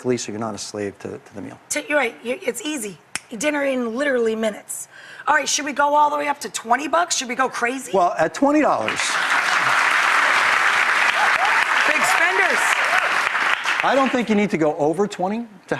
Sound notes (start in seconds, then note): 3.0 clicks fingers; 8.8 audience applauds